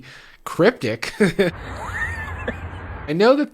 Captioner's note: laughs